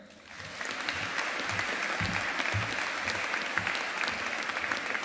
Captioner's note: audience applauding